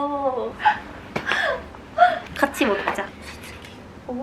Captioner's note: almost out of breath